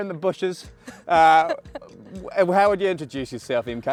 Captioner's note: laughs